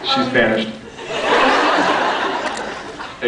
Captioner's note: laughs